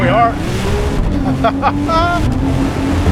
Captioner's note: laughs